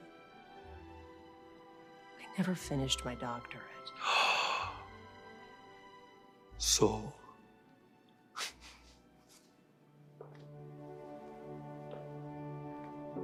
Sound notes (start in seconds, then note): 4.0 Radovan gasps; 8.4 Radovan chuckles; 10.1 soft music begins